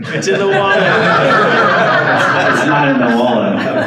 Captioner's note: audience laughs